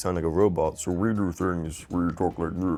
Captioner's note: distorted voice